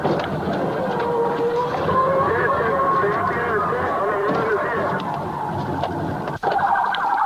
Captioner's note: tires skidding